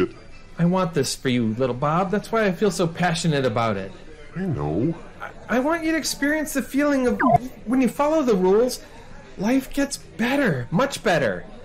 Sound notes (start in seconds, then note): 7.1 beep